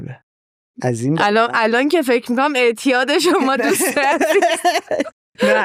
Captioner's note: laughs